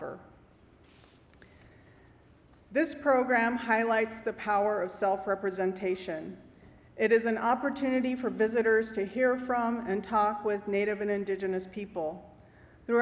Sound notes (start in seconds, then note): none